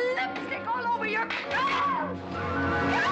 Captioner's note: Katherine screams; banister cracking; Katherine screams